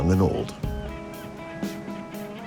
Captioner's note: seagulls calling